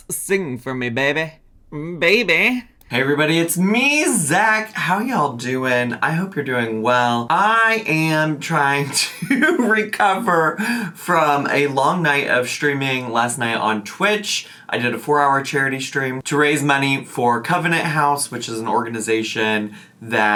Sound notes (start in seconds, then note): 8.8 laughs